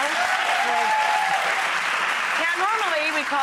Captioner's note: applause